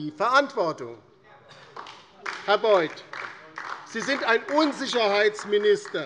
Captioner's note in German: Beifall DIE LINKE - Zurufe CDU